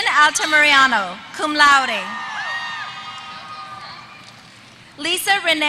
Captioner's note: applause